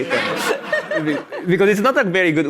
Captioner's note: audience laughs